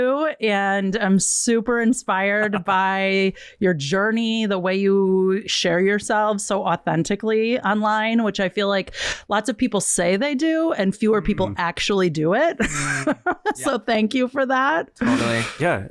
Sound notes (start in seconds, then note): 12.6 laughs